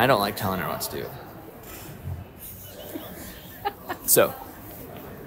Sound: chuckling

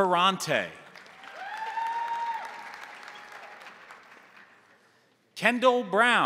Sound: crowd applauding; crowd cheering

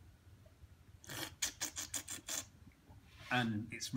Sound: slurping

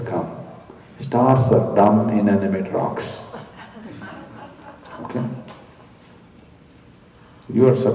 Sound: laughter

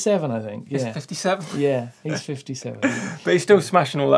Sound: laughs

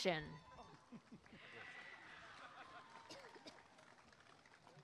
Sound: applause and cheering

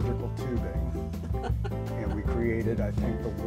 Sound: laughs

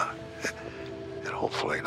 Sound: chuckles

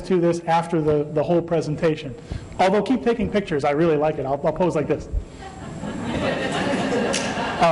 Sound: laughter

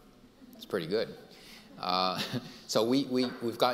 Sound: laughs; audience laughing

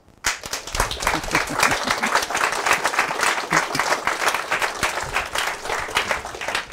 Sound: applause

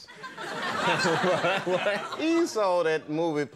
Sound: audience laughing

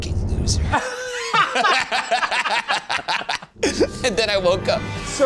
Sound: laugh

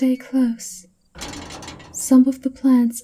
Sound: the door's workings rattle as it locks in place

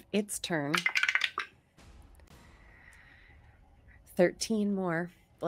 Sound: dice clatter

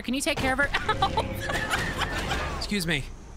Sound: laughing

